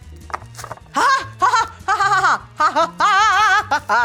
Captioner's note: laughing